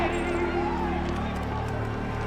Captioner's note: people shouting